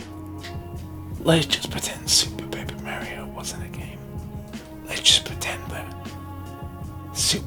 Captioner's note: whispers